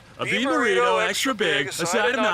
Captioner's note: in unison with launchpad